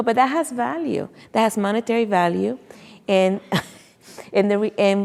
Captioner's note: chuckles